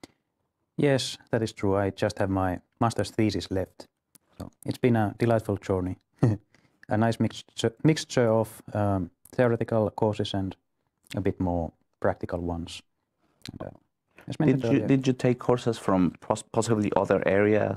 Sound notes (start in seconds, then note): 6.2 laughter